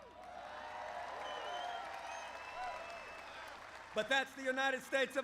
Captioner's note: applause